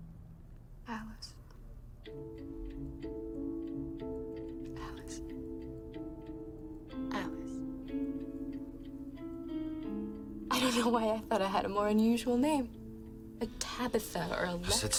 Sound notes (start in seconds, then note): none